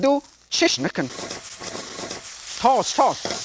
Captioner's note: stir-frying noises